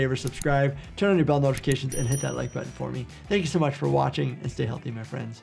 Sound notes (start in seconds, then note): 1.8 bell ringing